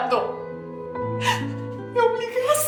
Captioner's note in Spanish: Sollozos